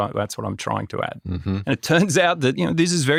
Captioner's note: clears throat